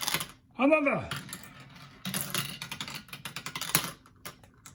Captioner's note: marble rattles on tubes